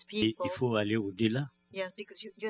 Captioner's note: speaking french